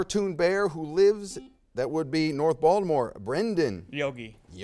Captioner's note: buzzer sounds